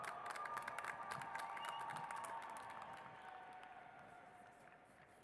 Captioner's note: cheers and applause